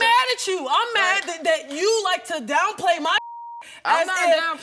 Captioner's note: beeping